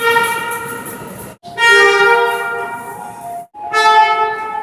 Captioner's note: air Horn